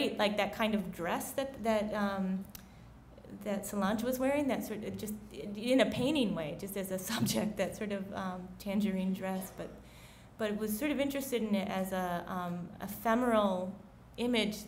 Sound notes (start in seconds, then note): none